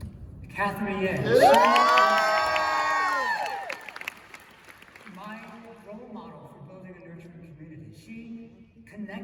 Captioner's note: cheers and applause